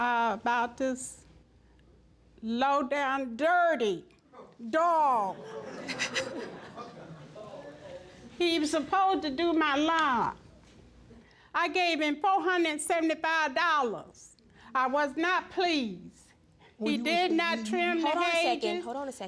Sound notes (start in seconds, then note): 5.7 judge faith chuckling